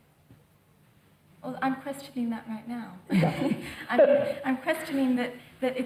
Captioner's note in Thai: หัวเราะ